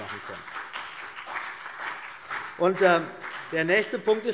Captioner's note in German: Beifall BÜNDNIS 90/DIE GRÜNEN